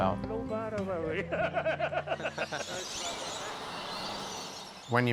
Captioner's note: males laugh